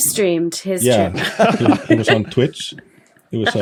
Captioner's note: group chuckling